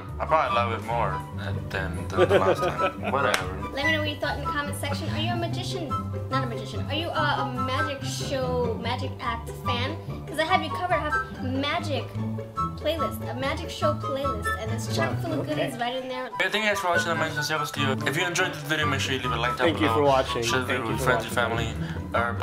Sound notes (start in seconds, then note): 2.0 laughs